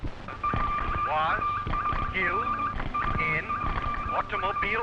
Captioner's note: morse key beeping